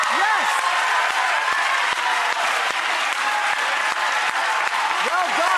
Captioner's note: cheering and clapping